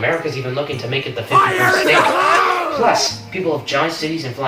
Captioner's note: crying